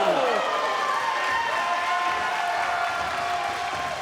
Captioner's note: crowd cheering